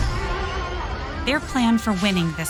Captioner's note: crowd cheering; motors revving